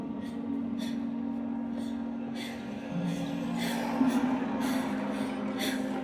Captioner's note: slow tense ambient music; gasping